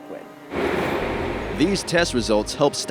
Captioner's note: sounds of machinery